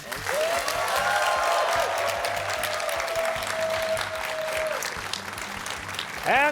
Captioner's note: cheers and applause